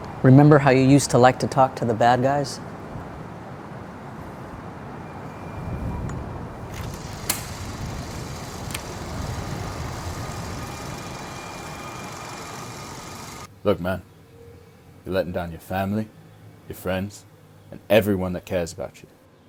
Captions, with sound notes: - Remember how you used to like to talk to the bad guys? (projector clicks) (projector whirring) - Look man, you're letting down your family, your friends, and everyone that cares about you.